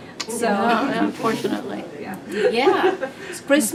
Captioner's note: chatter